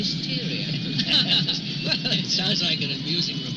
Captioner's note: laughing